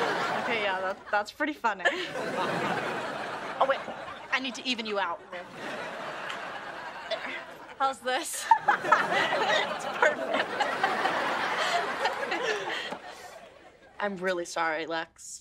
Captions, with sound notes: Okay yeah, that's pretty funny. [audience laughing] Oh wait. I need to even you out there. - There. - How's this? [laughing] Perfect. [laughing] I'm really sorry, Lex.